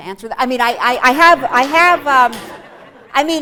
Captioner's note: laughter